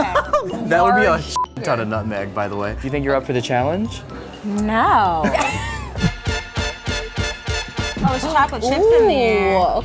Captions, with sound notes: (laughter) - That would be a (beep) ton of nutmeg, by the way. Think you're up for the challenge? - No. (laughter) (upbeat music) - Oh there's chocolate chips in there.